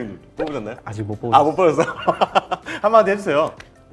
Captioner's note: laughing